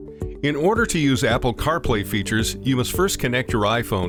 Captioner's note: upbeat music; voiceover